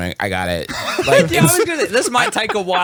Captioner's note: laughs